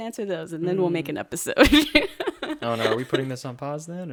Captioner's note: laughs